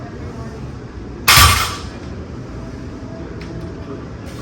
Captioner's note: weight clanks